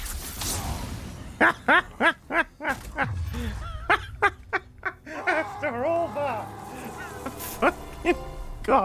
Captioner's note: triumphant laughter